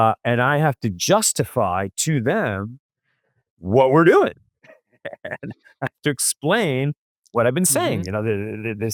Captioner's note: laughs